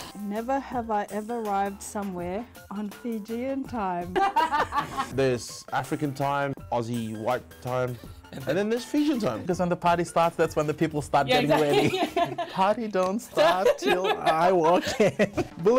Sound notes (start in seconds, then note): 4.1 both laughs; 7.9 chuckles; 13.1 both laughs